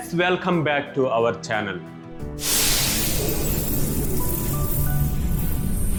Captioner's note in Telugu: గురకలు